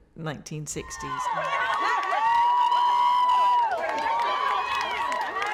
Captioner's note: crowd cheering